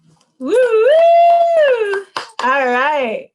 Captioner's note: clapping